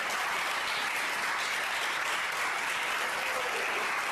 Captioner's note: LOUD APPLAUSE Continues